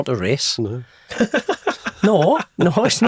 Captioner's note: participant chuckles